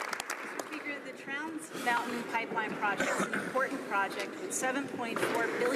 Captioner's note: some Applause